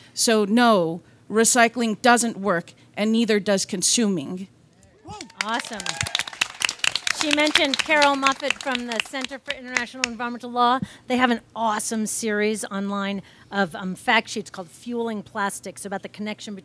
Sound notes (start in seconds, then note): 5.0 audience claps and cheers